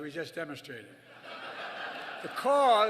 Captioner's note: laughter